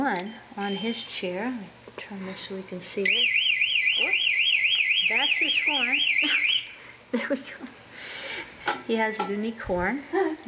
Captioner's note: siren